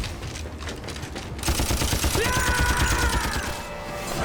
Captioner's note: yelling